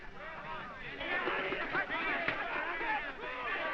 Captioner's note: men clamoring